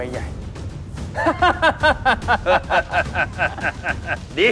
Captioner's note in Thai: เสียงหัวเราะ